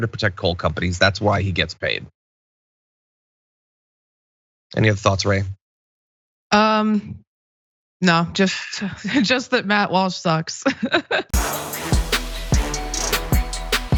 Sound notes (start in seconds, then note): 10.8 laugh